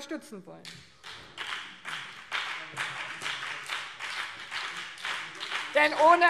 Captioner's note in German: Beifall